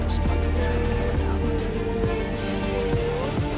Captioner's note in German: ängsliche Geräusche